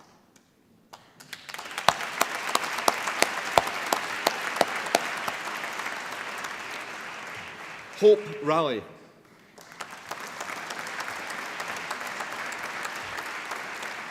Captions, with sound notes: Hope Raleigh (APPLAUSE)